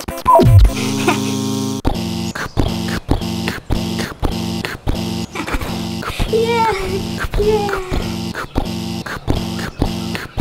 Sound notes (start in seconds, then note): 0.1 beep; 0.1 buzz; 2.3 pounding footsteps; 9.0 pounding footsteps